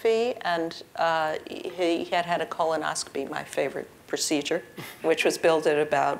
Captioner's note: laugh